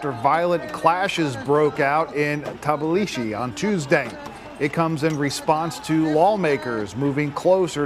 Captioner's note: yelling